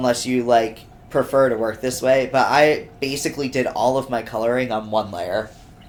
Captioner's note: none